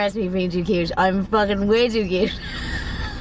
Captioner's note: laughing